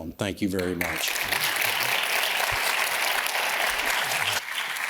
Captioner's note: audience applauds